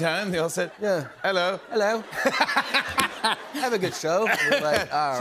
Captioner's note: British accent; normal voice